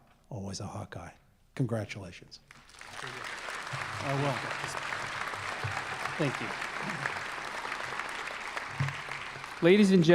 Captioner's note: applause